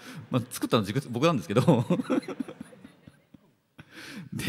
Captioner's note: laughter; laughs